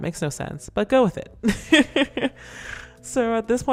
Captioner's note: laughs